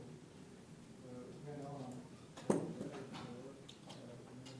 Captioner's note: interference of mike pop